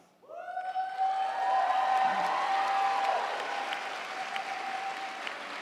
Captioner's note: audience cheering; audience applauding